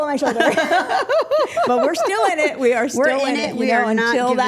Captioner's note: group laughing